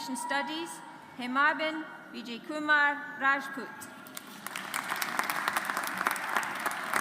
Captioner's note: audience applauds